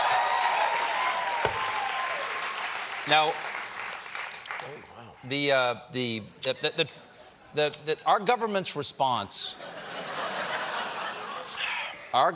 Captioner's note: cheers and applause